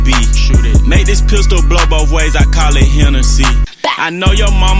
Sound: pow!

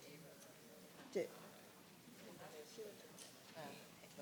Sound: people chattering

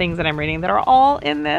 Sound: none

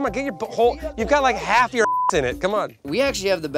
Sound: beep

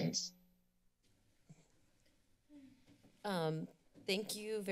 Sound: silence

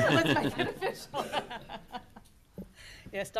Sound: loud laughter

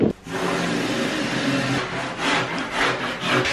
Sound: machine noise

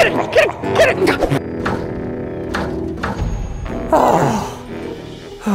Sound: bin hand laughs; sighs

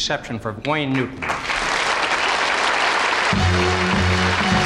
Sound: audience applauding; upbeat gospel music

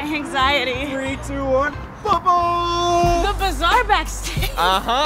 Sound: laughs

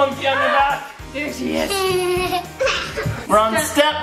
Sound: giggles

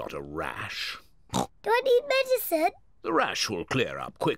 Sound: oinks

